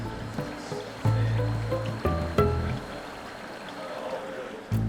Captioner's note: bubbling